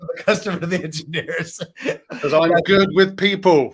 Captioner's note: laughing